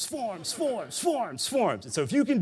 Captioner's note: audience laughing